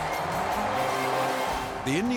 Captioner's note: crowd cheering